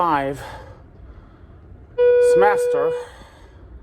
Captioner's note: elevator dings